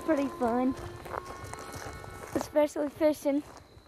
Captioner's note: birds chirping